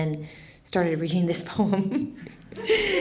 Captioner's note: laughs